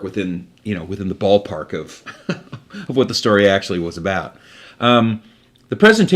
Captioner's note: laughs